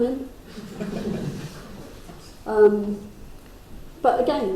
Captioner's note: crowd chuckles